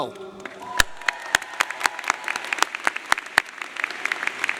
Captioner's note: audience applauding